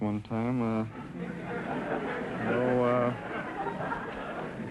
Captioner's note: audience laughter